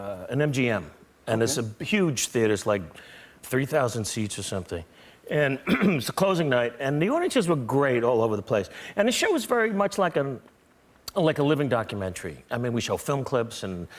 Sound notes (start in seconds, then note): 5.6 clears throat